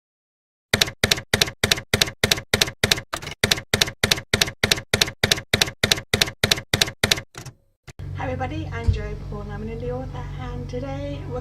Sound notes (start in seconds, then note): 0.7 typewriter keys clacking